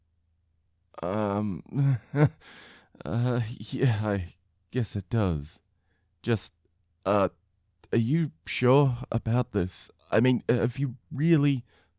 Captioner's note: nervous chuckling